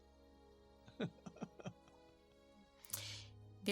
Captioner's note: grins and laughs